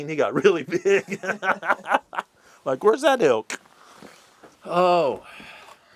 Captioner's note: laughter